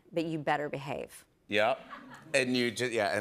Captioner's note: laughter